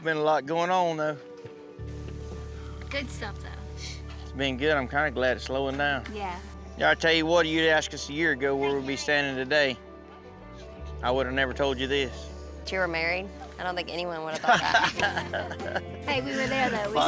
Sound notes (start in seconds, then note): 14.3 laughs